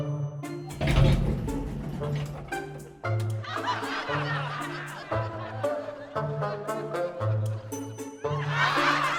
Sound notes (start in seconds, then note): 3.1 people laughing